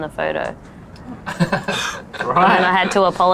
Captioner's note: both laugh